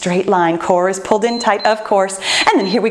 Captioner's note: timer beeps